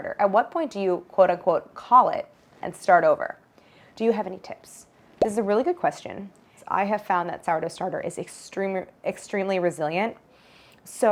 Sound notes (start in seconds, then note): none